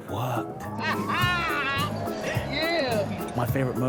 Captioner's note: laughing